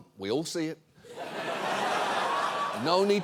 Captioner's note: studio audience laughs